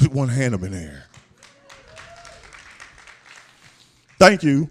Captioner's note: applause